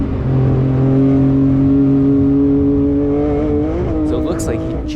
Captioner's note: car engine revving